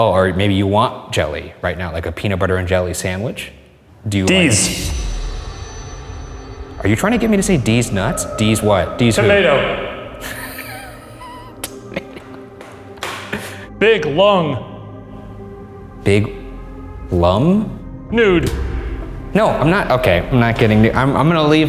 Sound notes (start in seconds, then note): 5.9 foreboding music; 10.2 laughing